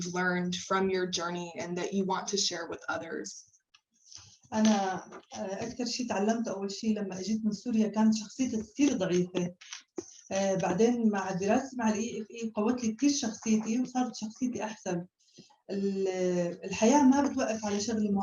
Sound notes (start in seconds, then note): 5.2 non-english speech